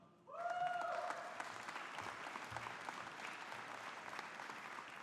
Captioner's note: audience applauding